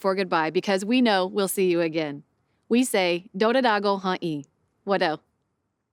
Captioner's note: speaks Cherokee language